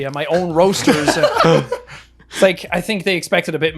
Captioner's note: laughing